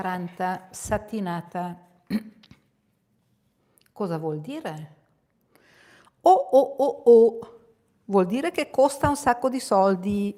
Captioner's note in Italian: schiarire la voce